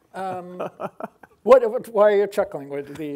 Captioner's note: laughing